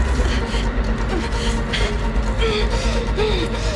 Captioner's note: Miranda struggling, breathing heavy